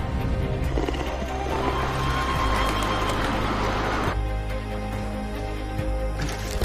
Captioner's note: growling, wings flapping, flute music